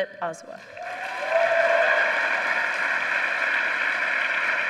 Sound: applause

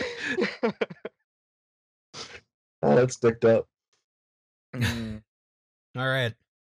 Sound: laughter

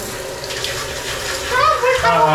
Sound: pouring

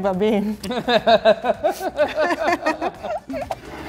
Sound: laughing

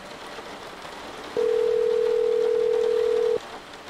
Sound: phone rings

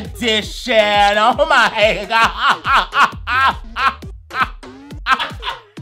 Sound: laughing

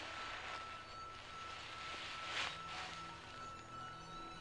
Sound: rustling

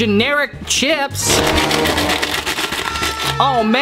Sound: bag crinkling

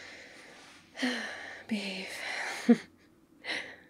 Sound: sighs

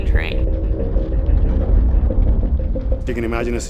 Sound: earthquake rumble

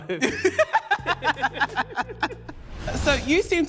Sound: both laughing again

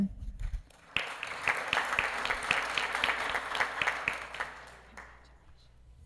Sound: applause

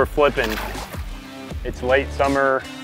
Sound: water splashing

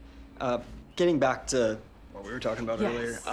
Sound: none

